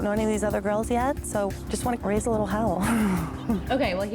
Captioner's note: chuckling